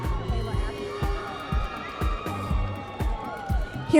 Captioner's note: audience members cheering